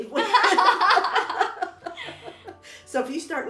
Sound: both laughing

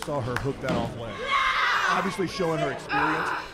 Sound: wrestlers grunting

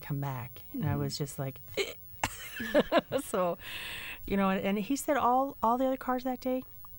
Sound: gasps

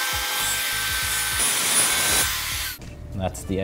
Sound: sawing

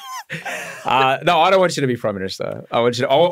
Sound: laughing

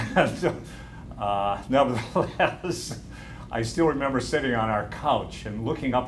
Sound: laughter

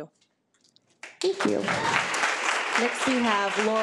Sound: audience applauding

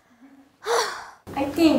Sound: sigh

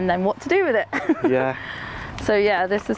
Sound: laughs

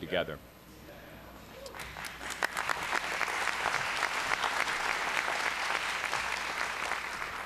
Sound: applause

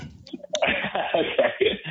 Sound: laughing

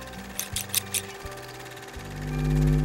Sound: camera clicking; scissors snipping; gentle music

